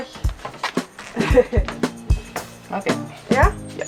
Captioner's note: laughter